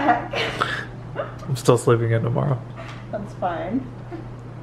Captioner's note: laughs